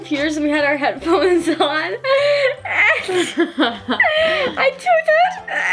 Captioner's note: laughs